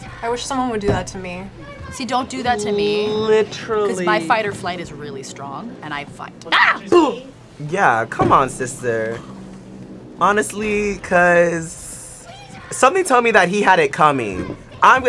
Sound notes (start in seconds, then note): 6.5 screams